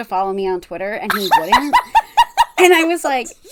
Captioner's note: cackling